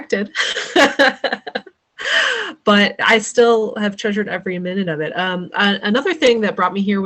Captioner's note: laughs